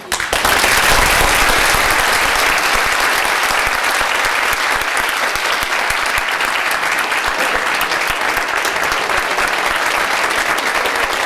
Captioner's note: applause